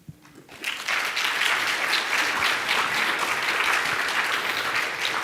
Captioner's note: audience applauding